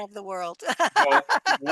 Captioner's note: laughter